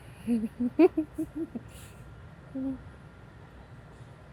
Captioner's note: laughing